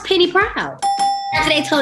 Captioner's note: dings